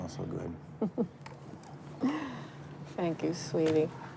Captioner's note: mother laughs